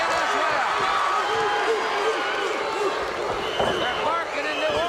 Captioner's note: audience barks